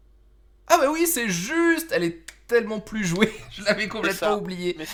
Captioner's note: laught